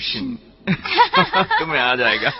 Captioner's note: giggling